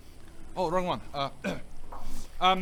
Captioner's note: cough